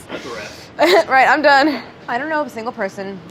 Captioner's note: chuckles